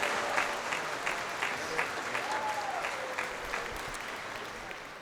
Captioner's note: crowd applauding